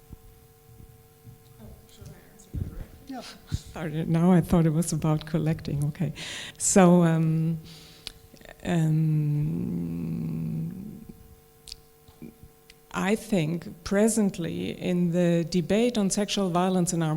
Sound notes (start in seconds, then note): 1.5 background Conversation